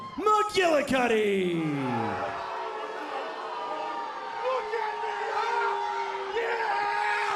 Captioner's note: crowd cheering